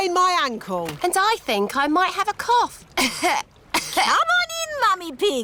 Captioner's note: coughs